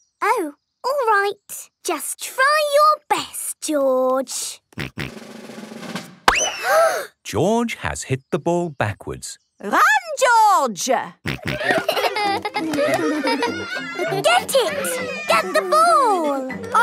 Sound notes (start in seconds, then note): 6.5 bang; 6.5 children gasp